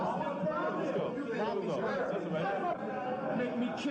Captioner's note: indistinct chatter